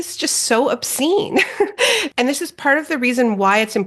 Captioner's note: Naomi chuckling